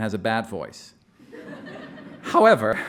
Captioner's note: audience laughing